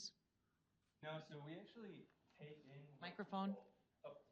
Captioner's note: voice fades